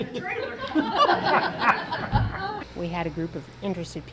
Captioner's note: audience laughing